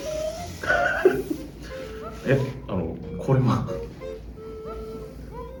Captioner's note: laughs